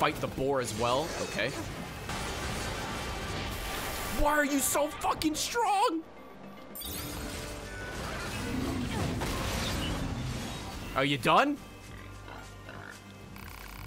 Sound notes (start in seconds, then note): none